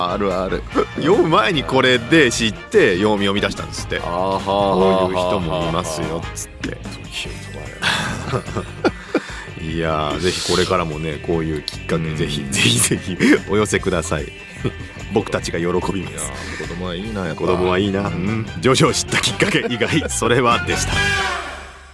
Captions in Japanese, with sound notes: あるある。読む前にこれで知ってみ出したんつって。 ああはあ。 そういう人もいますよつって。 [笑い] いや、是非からもね、こういうきっかけぜ非ぜひぜひお寄せください。 僕たちが喜びみたい。 いや、子供はいいな。やっぱ 子供はいいな。 徐々知ったきっかけ以外それはでした。